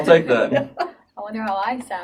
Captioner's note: laughing